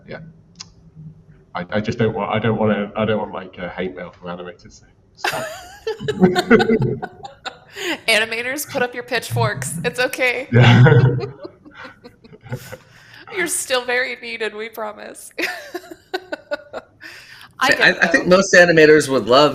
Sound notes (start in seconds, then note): 5.2 laughter; 10.5 laughter; 15.4 laughs